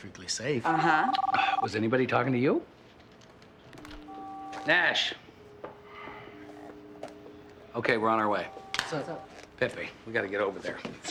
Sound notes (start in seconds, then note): 0.7 phone ringing